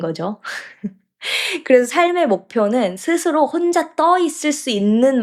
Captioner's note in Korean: 헉 소리; 웃음